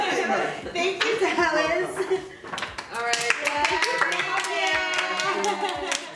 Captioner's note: applause and Cheers